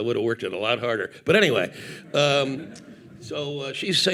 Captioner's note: audience laughing